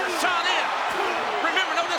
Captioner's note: audience cheers